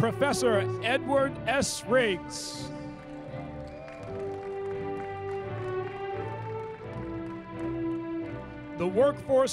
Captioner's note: applause